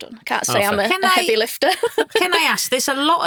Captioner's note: chuckles